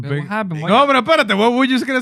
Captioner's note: non-english Speech